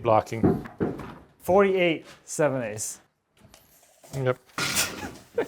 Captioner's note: laughs